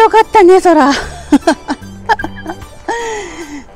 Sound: laughs

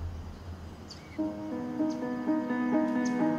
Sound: birds twittering

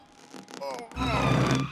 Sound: moans

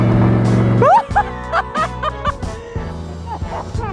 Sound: laughing

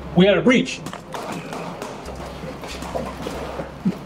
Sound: guns firing

